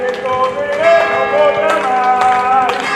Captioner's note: bells ringing; non-english singing